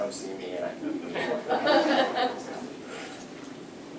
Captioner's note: laughter